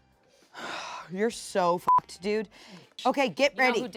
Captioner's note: beep